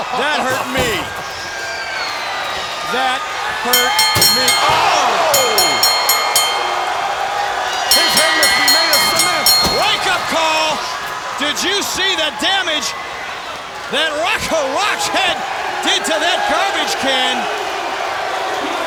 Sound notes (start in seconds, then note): 4.0 bell rings; 5.3 crowd groans